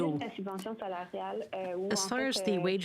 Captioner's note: speaking French